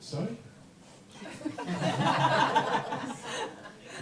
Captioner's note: laughter